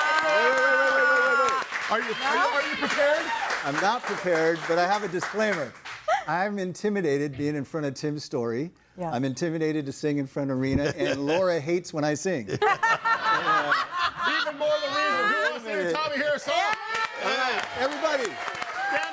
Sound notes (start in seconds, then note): 0.0 audience applauding; 12.5 audience laughing; 16.2 audience cheering and applauding